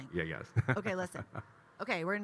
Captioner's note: Kyle laughing